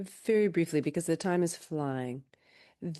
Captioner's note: speaking in French